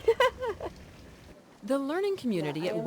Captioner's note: laughs